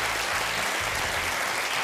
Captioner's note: applause